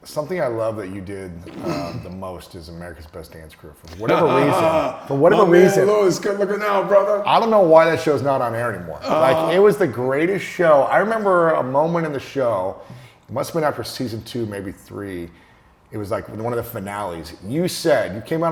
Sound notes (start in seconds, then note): 3.9 laughing